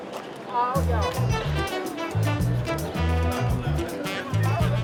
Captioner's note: background chatter